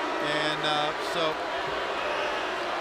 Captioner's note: crowd cheering